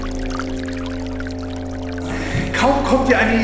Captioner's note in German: Wasserplätschern